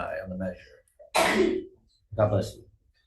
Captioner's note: audience member sneezes